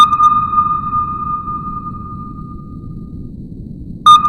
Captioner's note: sonar beeping